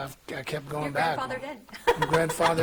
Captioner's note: laughing